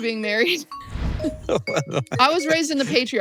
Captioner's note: chuckles